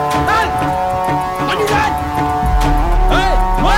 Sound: Malay Language

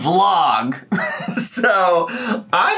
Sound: laughing

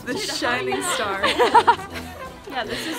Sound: laughs

